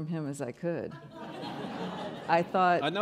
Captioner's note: laughing